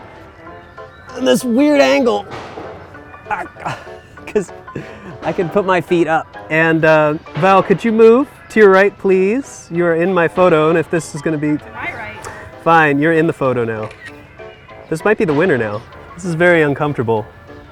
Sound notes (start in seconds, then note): 3.3 groans; 13.8 camera clicks